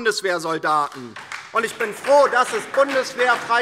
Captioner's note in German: Beifall DIE LINKE